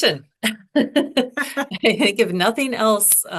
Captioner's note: laughing